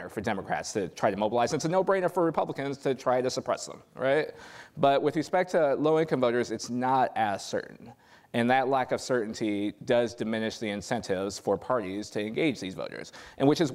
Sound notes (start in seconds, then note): none